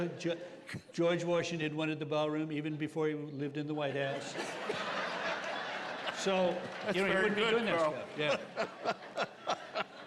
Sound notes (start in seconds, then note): 1.5 doing trump impression; 4.8 laughter